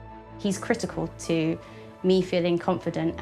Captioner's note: none